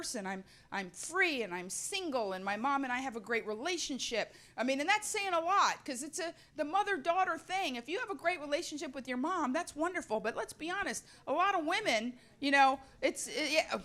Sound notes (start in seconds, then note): none